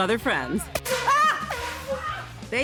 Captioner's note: horn blast